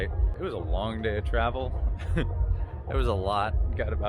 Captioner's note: chuckles